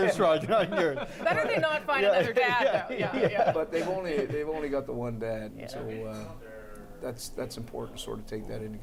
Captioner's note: laughter